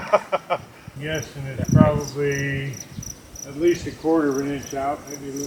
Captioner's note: laughter